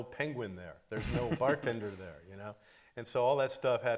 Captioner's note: laughing